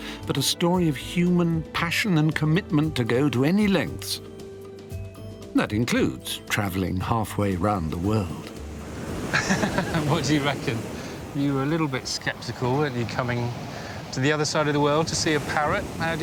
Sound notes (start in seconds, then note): 9.3 laughing